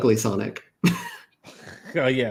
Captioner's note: laughs